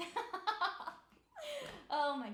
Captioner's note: laughing